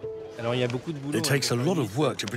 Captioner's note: speaking in foreign language